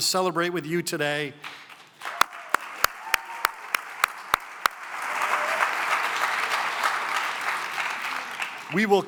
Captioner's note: cheering and applause